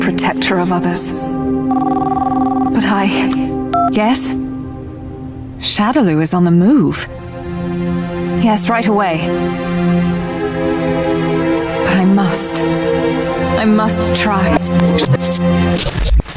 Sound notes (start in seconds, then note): 1.6 phone ringing; 9.7 intense orchestral music